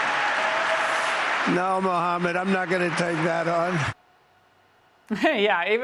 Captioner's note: cheers and applause